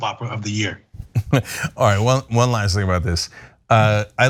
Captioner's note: laugh